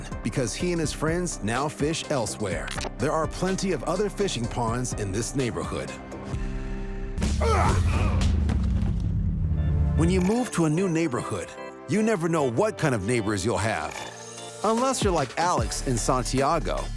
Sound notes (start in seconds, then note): 6.4 laughs